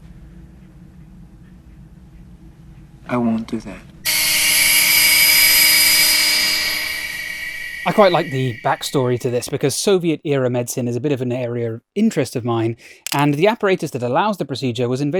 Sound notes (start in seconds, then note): 4.0 machine whirring